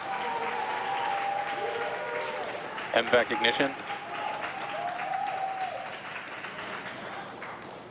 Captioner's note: cheering and Applause